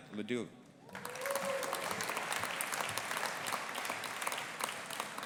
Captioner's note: audience applauding